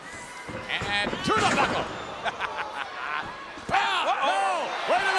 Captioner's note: laughs